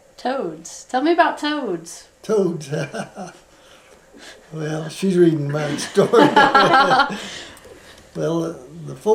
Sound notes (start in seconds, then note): 4.1 laughs; 5.4 laughter